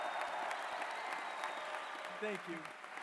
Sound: cheers and applause

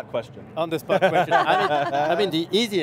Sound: everyone laughs happily

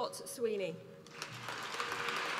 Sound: applause

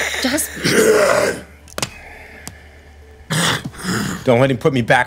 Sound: monster growling

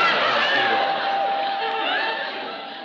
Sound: door bell

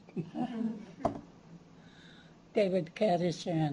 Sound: chuckles

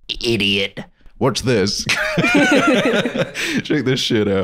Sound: laughing

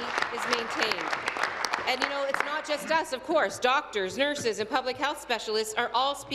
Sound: applause

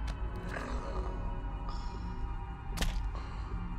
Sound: Leroy snoring; Leroy's head thudding

